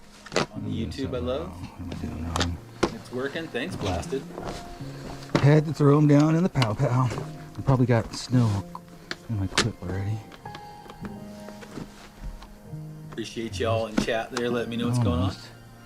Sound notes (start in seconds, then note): 0.0 chatter; 0.5 chatter thanking live chat for feedback; 15.6 softly spoken